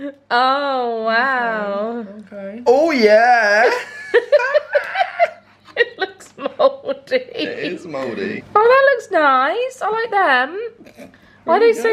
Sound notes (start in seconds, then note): 3.4 laughs